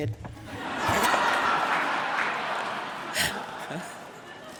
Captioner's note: audience laughing